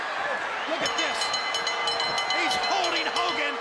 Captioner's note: bell ringing